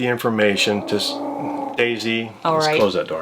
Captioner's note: Daisy growls